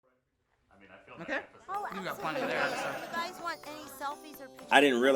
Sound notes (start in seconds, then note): 2.0 laughter